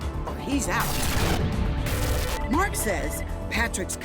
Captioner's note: static